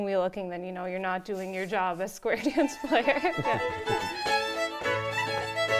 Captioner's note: laughs; upbeat fiddle music